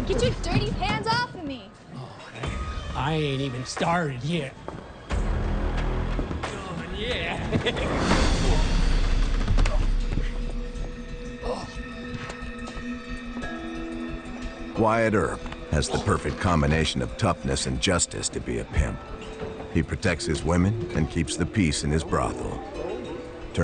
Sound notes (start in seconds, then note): 7.0 laughs; 10.1 brooding music; 12.4 brooding music